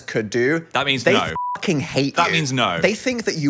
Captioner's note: beep